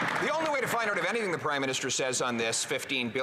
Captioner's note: some Applause